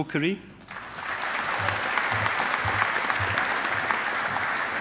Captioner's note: audience applauding